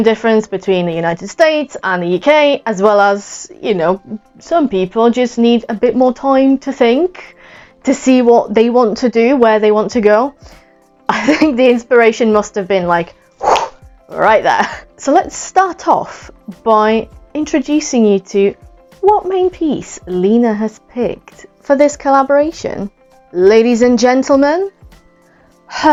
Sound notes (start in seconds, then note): 13.4 whooh, snap